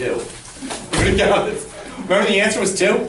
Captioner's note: laughs